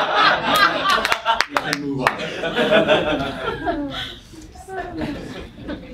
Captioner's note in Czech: potlesk; publikum se směje; smích